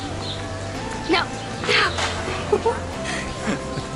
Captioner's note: laughter